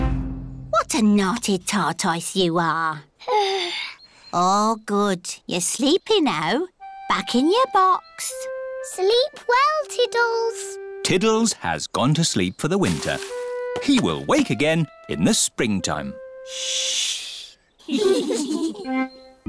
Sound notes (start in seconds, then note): 3.3 yawns; 17.8 all giggle quietly